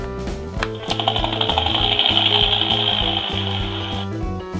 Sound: helicopter sounds

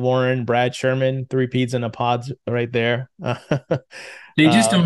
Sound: laughs

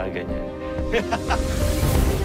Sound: laughing; stirring music playing

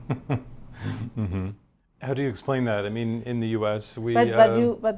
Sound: laughs

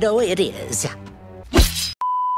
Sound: stabbing Sound

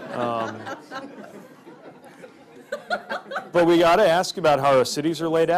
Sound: laughter

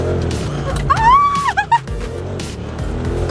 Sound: screams

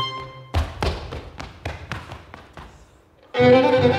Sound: footsteps tapping

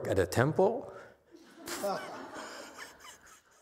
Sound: laughs, audience laughs

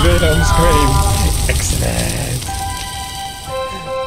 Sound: Sad trombone and Wilhelm together

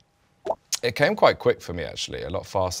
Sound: text bloops

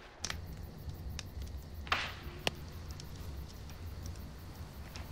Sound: fire rackling

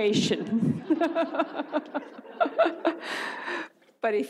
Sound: audience laughs; laughs

